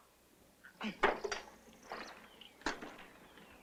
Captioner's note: opening sodas